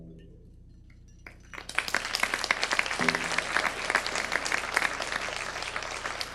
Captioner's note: audience applause